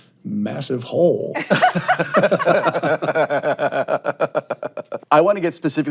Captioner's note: all laughing